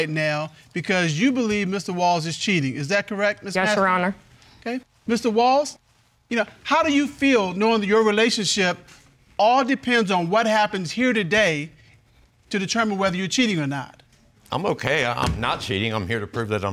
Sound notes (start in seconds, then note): none